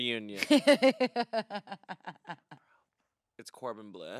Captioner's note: laughs